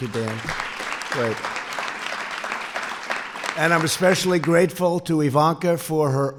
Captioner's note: applause